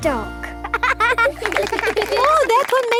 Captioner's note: laughing